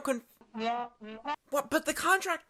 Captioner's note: crew member whispering